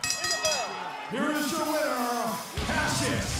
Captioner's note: bell ringing